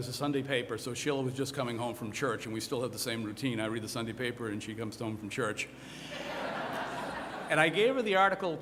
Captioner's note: laughter